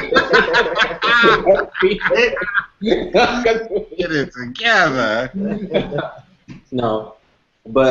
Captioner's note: laughter